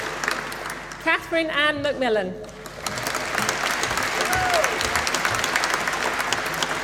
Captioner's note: applause